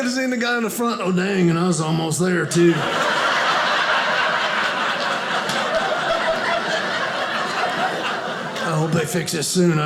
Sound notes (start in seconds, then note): 2.5 audience laughing